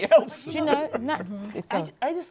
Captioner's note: laughs